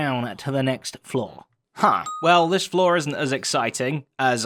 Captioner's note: ding